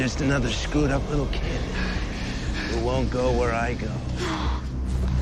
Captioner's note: breathing heavily